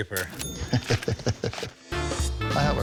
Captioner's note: laughs